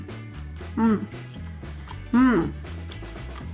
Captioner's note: makes pleasure noises